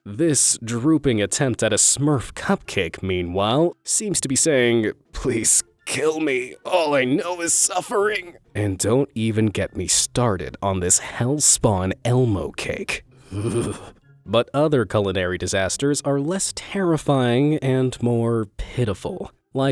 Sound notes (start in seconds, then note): 13.3 narrator shudders